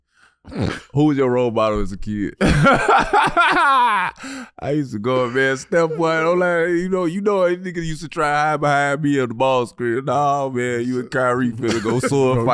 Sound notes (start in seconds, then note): 2.4 Gilbert laughing